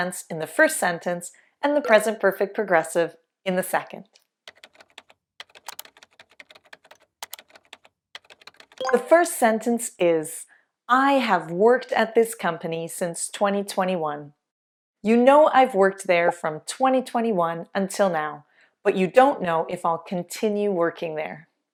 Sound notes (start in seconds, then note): 5.4 typing